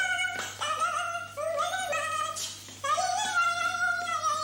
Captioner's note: humming